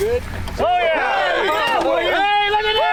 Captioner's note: group clamoring